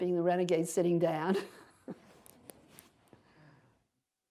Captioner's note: laughter